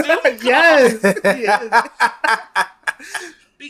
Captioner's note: laughs